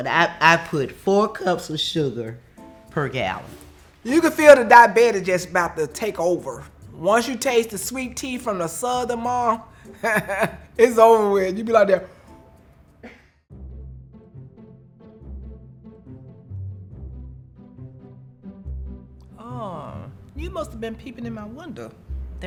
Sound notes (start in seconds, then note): 10.0 softly chuckles; 13.2 gentle music